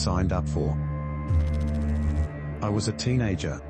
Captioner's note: electrical noise